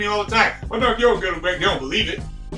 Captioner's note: mumbling an imitation